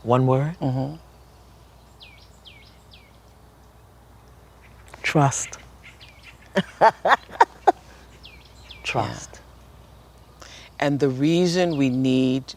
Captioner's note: laughter